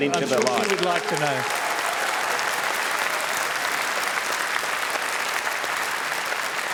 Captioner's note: cheering and applause